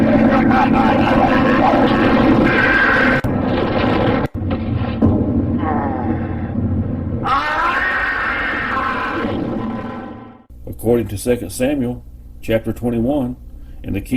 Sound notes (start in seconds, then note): 0.2 laughing; 2.6 yelling